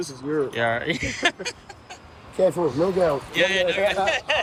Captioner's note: men chatting